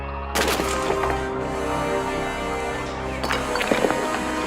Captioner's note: stones falling